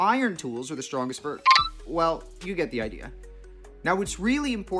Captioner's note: blip pause sound